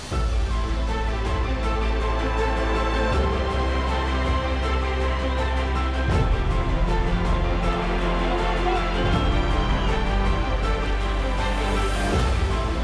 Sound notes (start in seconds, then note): 0.1 suspense-building music; 5.8 distant audience cheering